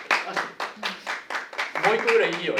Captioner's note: applause